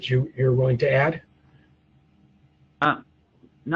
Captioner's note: pause